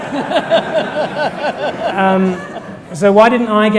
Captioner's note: laughter from audience